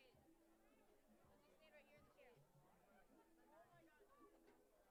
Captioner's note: crowd muttering continues